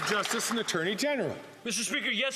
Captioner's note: some Applause